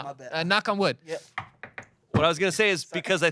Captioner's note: knocks on table